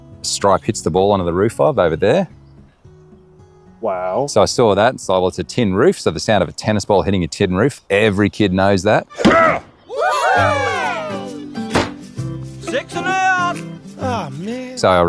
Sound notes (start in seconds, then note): 9.1 Stripe grunts; 9.1 group exclaims; 11.6 ball thuds